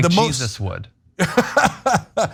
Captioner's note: laugh